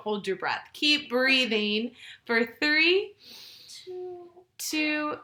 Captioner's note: inhales